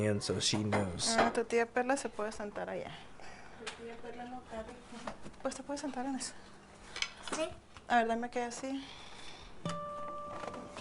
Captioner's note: speaking Spanish